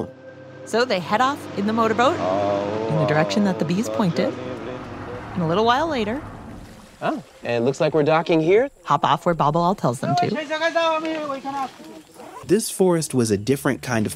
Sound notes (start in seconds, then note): 5.2 motorboat sounds mix with singing; 12.4 jungle and footsteps, mud, as gives instructions